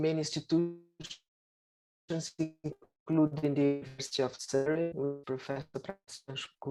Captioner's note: audio distorts